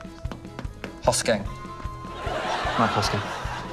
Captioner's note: laughter